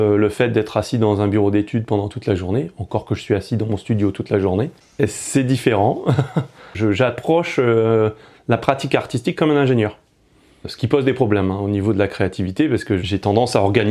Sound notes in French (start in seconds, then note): 6.0 rires